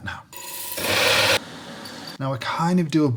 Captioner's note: buzzing sound